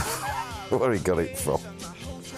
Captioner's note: laugh